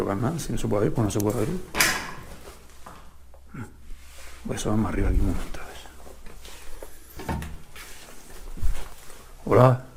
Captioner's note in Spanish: carraspeo